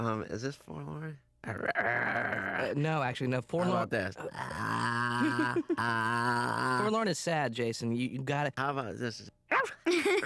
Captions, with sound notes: YEAH? UM, IS THIS FORLORN? (growling) NO, ACTUALLY NO━━FORLORN... HOW ABOUT THIS... (moaning) FORLORN IS SAD, JASON, YOU'VE GOT TO... HOW ABOUT THIS?